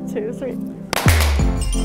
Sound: pops

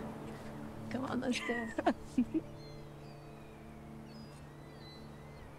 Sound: chuckles

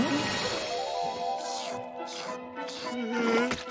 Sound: grunting; slurping

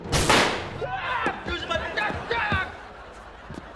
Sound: shrieking

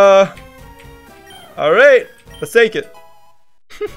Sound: laughs

